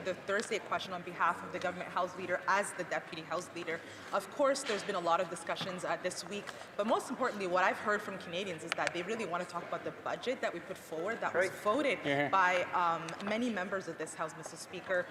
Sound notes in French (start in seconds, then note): 9.0 voix de l'interprète